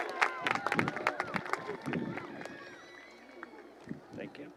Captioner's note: applause and cheering